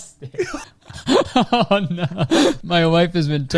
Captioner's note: Kurtis laughing